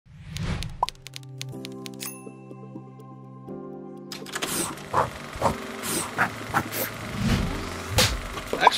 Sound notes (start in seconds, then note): 0.2 graphic whooshing; 0.3 keyboard buttons clicking; 2.0 bell dinging; 4.0 graphics whipping; 4.0 paper ripping